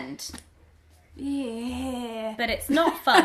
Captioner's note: moans uncomfortably